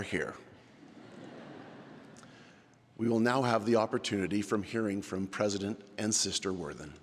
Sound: laughter

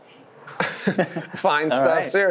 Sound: both chuckle

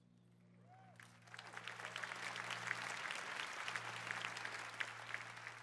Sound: applause

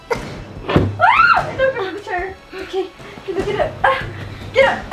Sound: screaming

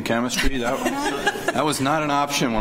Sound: laughter

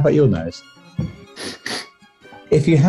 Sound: sniffs

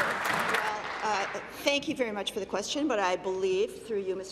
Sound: applause

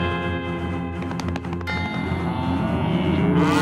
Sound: mooing

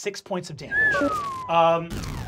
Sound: whistles

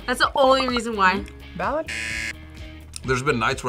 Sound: buzzer

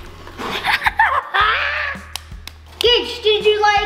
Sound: laughs

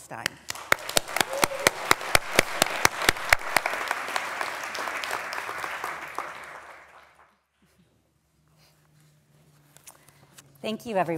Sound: applause

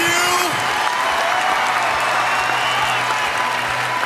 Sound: applause and cheering

